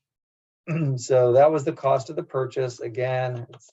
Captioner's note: cough